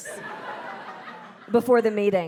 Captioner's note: audience laughing